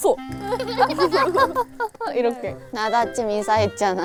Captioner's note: copying how the turkey laughs